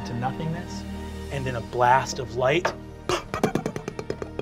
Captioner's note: popping